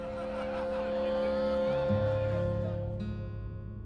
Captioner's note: crowd sounds